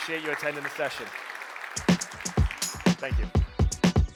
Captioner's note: applause